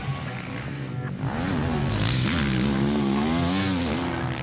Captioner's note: engine revving